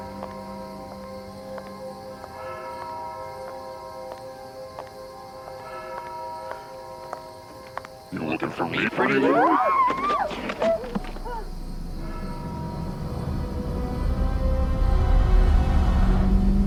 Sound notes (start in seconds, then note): 1.2 footsteps; 10.9 victim screaming